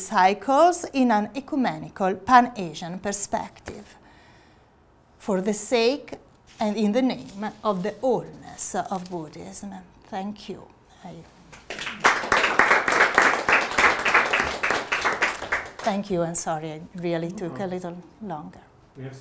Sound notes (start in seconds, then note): 11.5 audience clapping